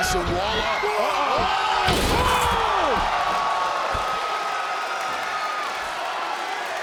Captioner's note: crowd cheering; Wade and Vic exclaim